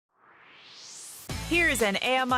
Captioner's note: swoosh